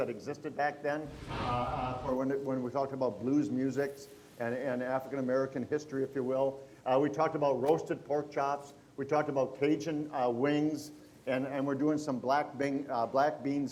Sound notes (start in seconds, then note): none